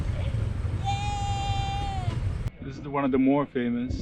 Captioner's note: lady cheering